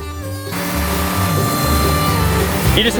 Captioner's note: engine whirring